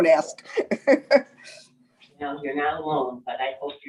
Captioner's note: laughing